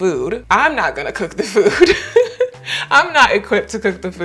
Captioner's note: laughs